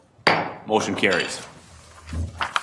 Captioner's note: gavel bangs